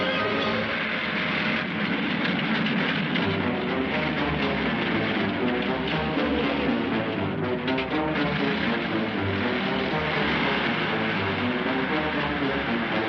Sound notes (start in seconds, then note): 1.1 engine sputtering; 3.9 dramatic marching music